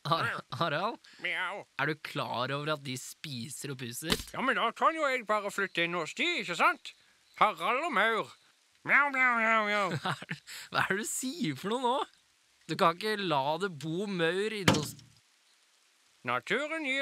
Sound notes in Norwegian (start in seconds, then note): 14.6 høyt dunk